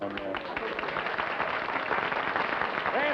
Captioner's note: applause